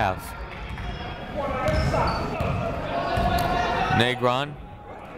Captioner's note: people shouting in the crowd